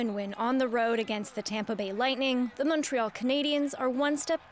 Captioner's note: cheers and Applause